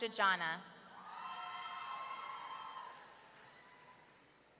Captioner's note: audience cheering